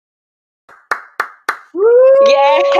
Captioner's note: cheers